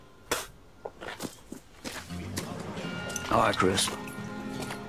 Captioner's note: Heck spits